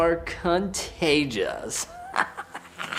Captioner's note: crazy laugh